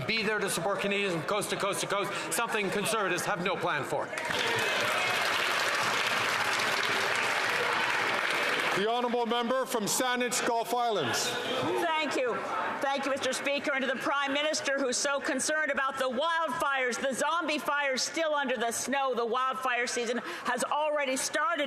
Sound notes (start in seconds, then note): 7.8 some Applause